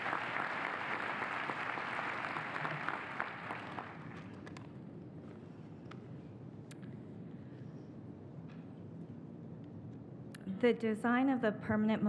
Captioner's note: applause